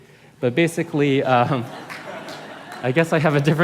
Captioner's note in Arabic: ضحك